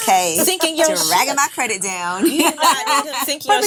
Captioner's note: laughing